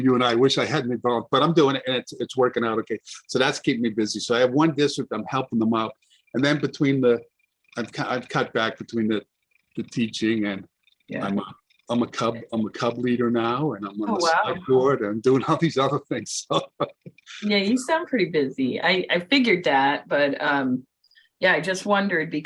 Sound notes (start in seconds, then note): 0.0 laughs; 16.9 chuckles